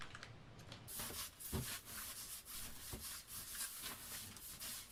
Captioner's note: shuffling